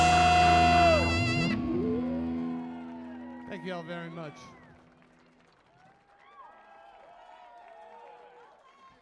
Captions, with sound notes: (music concludes) - Thank you all very much. (crowd cheering)